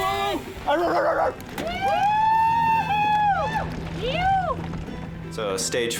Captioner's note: cheering